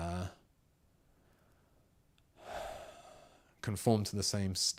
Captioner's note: sighs